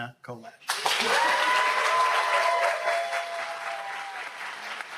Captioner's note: audience cheers